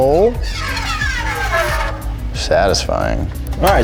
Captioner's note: line whistling